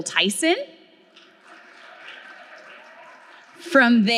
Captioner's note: audience clapping